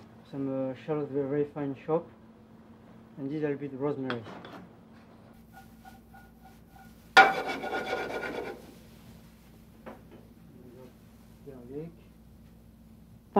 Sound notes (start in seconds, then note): 7.1 pan sliding